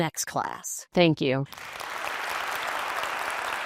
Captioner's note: applause